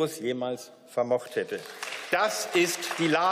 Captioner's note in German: Beifall